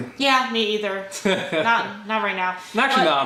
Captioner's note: laughter